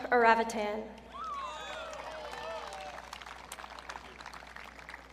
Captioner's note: audience cheering